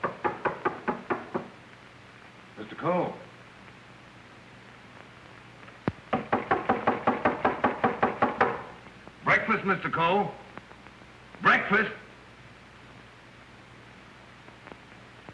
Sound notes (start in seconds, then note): 0.0 knocking; 6.1 knocking